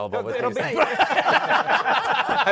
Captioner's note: laughter